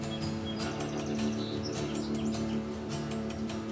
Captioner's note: dramatic music; birds chirping